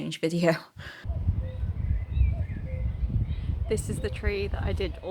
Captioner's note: nature sounds. There’s cuckoo & everything